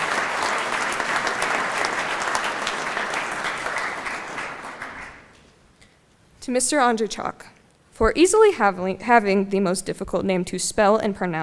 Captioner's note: applause